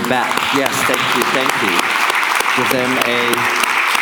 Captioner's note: applauds